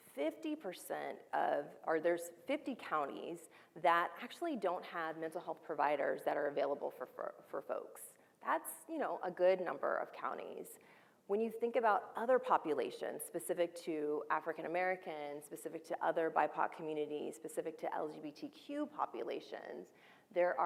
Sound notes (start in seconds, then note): none